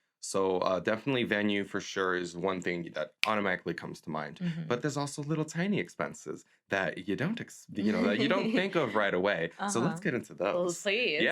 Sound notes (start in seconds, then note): 3.7 snaps; 7.8 laughs